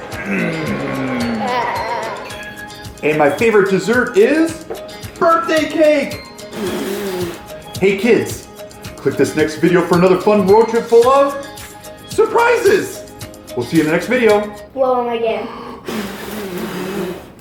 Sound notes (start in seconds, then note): 6.1 blows out candles